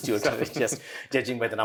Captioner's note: laughs